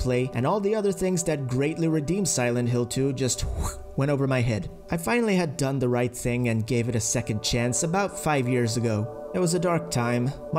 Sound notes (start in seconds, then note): 3.4 whoosh